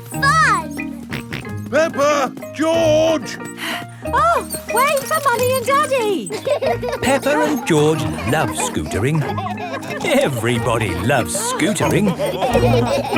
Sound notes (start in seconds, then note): 1.1 george snorts; 4.2 panting